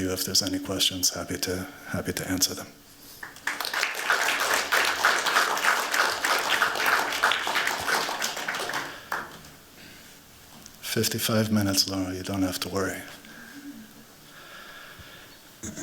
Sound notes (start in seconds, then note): 3.2 applause